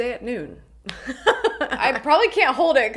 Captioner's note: laughs